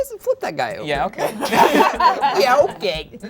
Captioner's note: group laughing